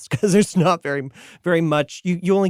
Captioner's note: chuckling